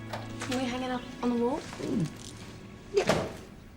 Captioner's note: door opens